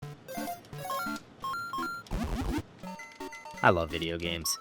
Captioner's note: video game sound effects